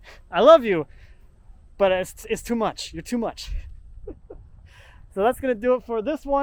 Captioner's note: laughs